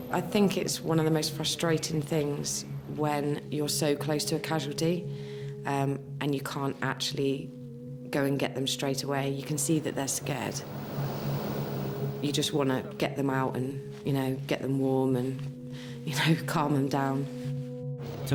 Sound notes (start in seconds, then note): 11.6 waves crashing